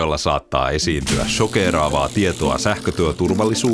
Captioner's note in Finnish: sähköiskun särinää